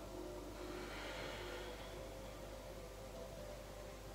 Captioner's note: breathing